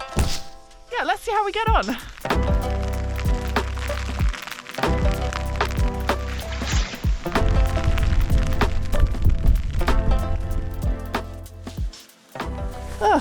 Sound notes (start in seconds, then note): 0.1 doof; 0.6 rain